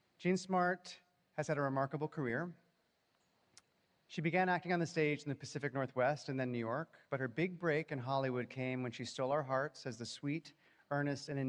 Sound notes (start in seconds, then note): none